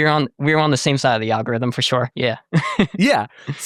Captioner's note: laughs